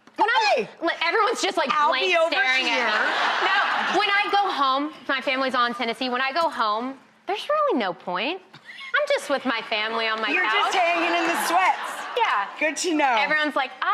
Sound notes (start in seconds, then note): 2.6 audience laughs